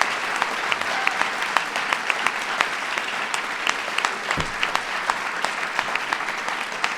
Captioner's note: applause